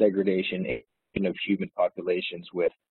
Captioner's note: audio distorts